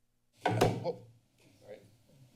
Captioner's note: thumping sound